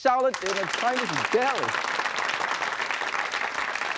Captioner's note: applause